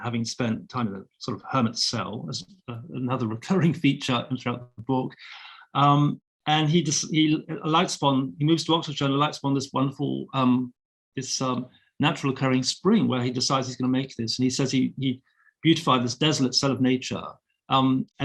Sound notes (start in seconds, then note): none